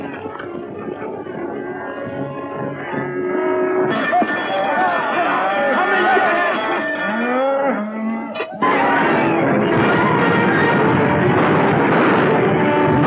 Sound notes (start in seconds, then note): 4.3 shouting; 8.6 gunshots